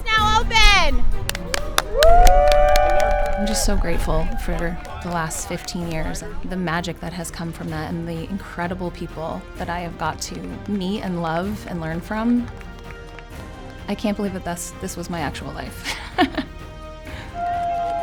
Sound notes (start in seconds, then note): 1.1 crowd clapping; 1.1 crowd cheering; 15.8 laughs; 17.3 crowd cheering; 17.4 crowd clapping